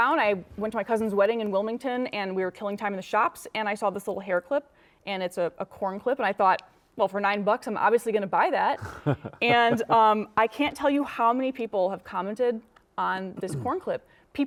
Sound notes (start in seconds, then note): 8.8 laughing